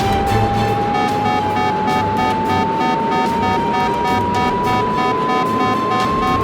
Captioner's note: alarm beeping